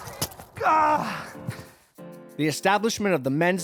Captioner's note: annoyed grunt